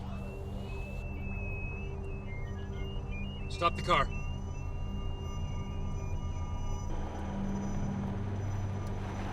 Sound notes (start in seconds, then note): 0.0 whistle; 2.1 alarm